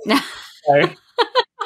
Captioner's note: laughs